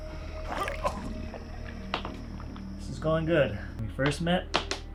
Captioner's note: Dom chocking cough